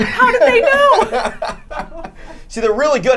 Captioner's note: laughing